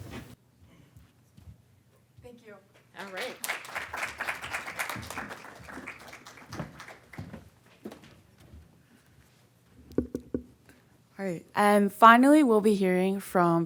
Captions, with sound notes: - Thank you. - All right. (audience clapping) - All right, and finally we'll be hearing